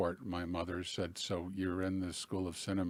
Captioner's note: none